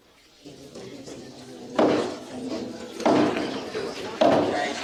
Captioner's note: knocking